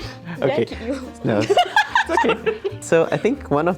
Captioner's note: both laughs